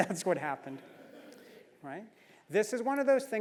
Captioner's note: laugh